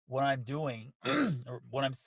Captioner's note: clears throat